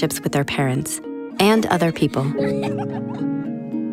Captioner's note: laughing